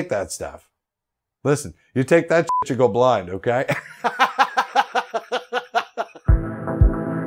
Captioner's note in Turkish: bip; güler; kapanış müziği